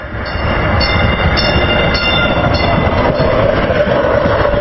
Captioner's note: train approaching; train bell ringing; train